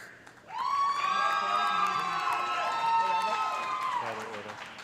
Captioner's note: cheers and applause